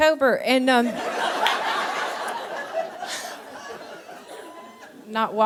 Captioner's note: audience laughing